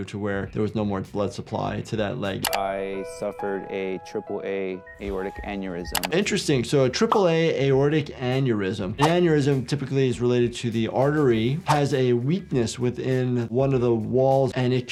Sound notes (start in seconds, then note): 2.4 mouse clicking; 11.6 screen swooshing